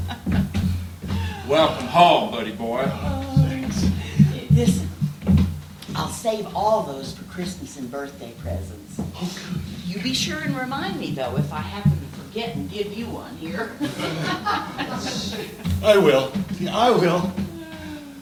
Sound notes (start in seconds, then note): 0.0 she embraces him and begins weeping; 1.0 shouts